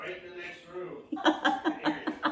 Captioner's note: laughs